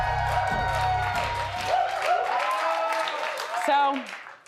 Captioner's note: audience applauds